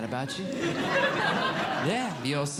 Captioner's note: audience Laughing